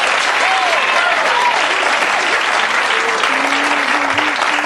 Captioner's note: audience cheering drowns out speaker; audience applauding